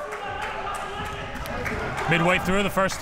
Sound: crowd cheering

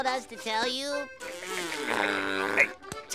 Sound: laughing

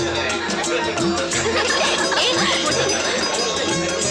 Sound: laughs

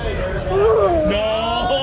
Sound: grunts

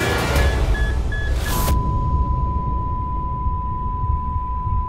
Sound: beeping

